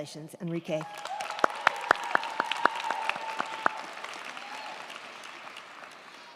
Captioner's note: crowd cheering; crowd clapping